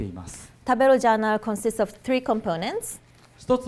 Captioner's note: none